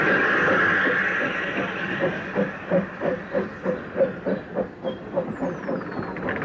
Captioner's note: train passes